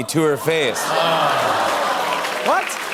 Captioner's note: laughter